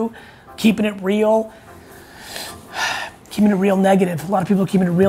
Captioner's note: sighing